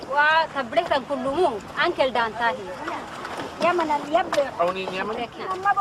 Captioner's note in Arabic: تتحدث بلغة أجنبية